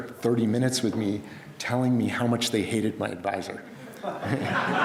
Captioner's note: crowd laughs